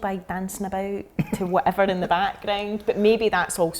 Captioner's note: laughing